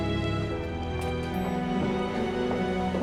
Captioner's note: elevator bell dings